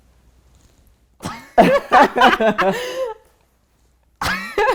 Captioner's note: laughter